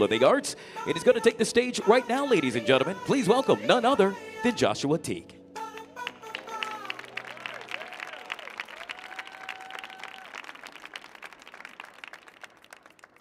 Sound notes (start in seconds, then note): 5.8 audience applauding; 6.3 audience cheering